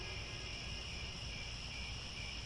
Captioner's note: crickets